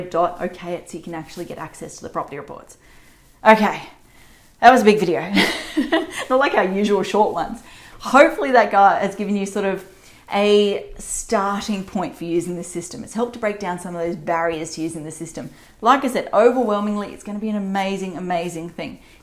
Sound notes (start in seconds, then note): 5.4 laughs